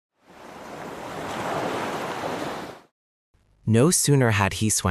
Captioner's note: ocean waves